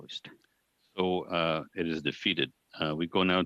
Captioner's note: speaking French